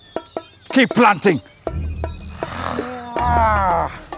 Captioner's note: huffs; groans